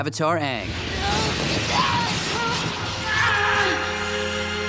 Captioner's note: screaming